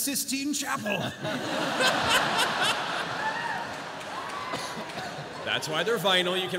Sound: laughter

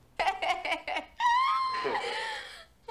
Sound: laughter

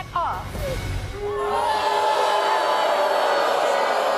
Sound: crowd jeers

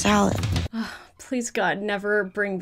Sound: sighing

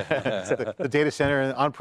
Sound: everyone laughing

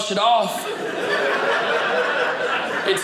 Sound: audience laughing

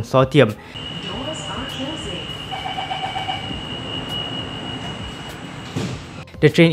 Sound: doors are closing

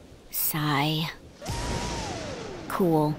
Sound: lightning striking

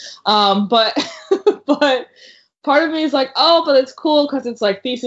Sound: laughs

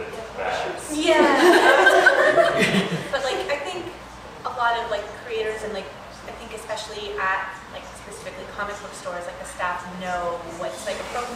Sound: laughter

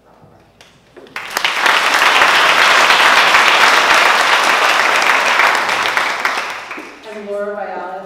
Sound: applause

